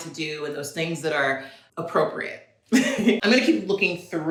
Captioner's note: chuckles